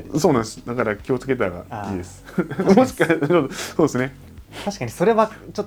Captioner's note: laughs